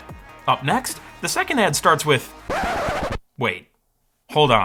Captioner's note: record scratch